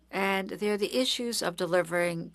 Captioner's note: speaking French